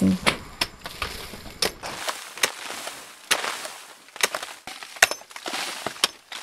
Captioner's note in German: Rieseln und Pickgeräusche